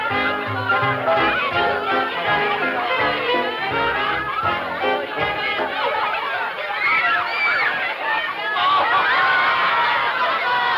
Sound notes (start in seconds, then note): 7.0 children shouting